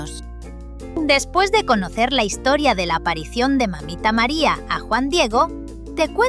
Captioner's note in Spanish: Voz en off